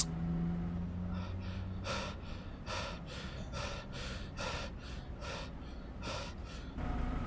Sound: heavy breathing; bus engine again but now louder

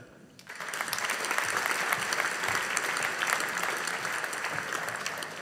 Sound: audience applauding

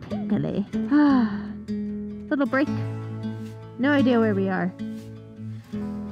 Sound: sighs

